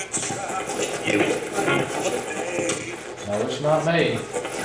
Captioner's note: radio voice